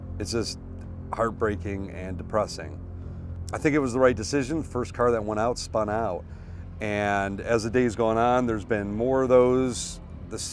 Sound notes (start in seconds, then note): none